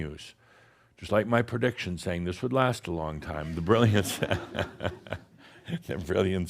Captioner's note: chuckles